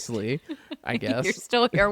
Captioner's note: laughs